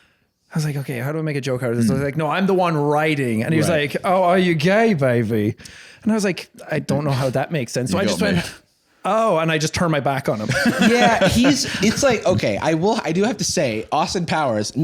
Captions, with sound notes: "OK, how do I make a joke out of this?" I was like, "No, I'm the one riding," and he was like, "(Austin Powers voice) Oh, are you gay, baby?" And I was like, "I don't know how that makes sense." So I just went, "Oh," and I just turned my back on him. OK, I do have to say, Austin Powers,